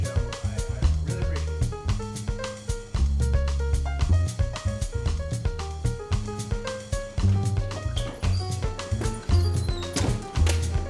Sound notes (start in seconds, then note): 7.3 door squeaking